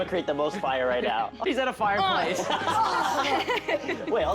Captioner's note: Ian and Lizzy laughs